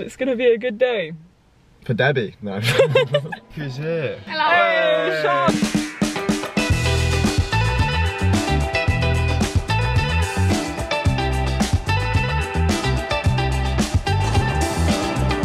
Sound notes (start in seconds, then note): 2.6 both chuckle; 6.0 upbeat music